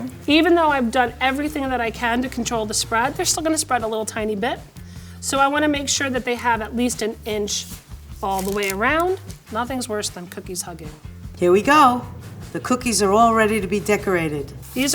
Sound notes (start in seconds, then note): none